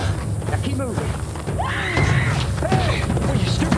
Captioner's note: screams